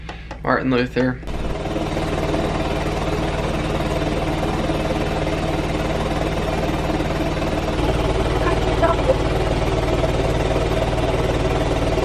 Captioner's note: vest machine vibrating